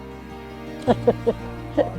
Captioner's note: laughs